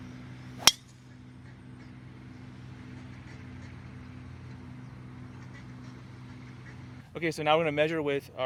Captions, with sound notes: (golf ball thwacking) (ducks quacking) - Okay, so now we're gonna measure with